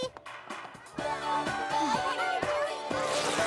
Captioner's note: sighs; record scratches